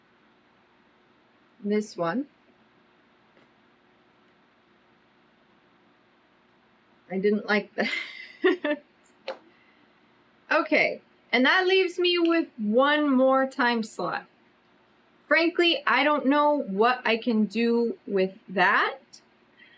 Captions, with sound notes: THIS ONE I DIDN'T LIKE THAT [LAUGHS] OKAY AND THAT LEAVES ME WITH ONE MORE TIME SLOT FRANKLY I DON'T KNOW WHAT I CAN DO WITH THAT